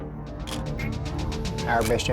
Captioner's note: camera shutter click